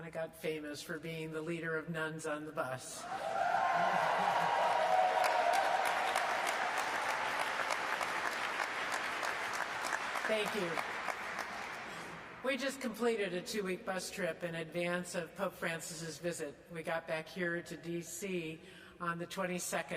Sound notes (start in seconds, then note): 3.0 audience claps and cheers